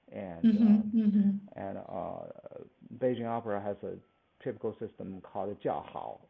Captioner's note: cheering/standing ovulation